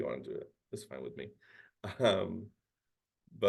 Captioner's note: chuckles